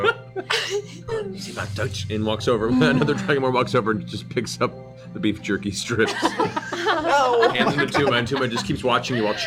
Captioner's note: speaks Draconic